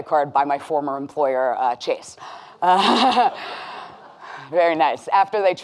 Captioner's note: laughing with audience